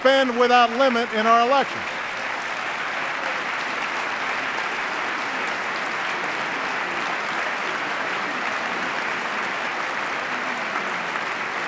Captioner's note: applause